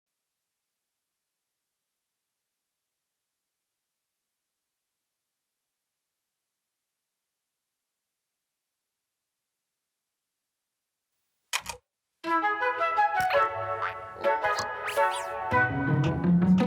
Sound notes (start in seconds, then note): 11.5 click; 14.2 caterpillar noises